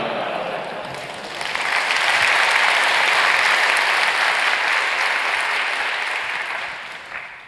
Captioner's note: applause